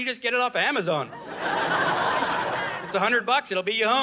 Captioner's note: audience laughing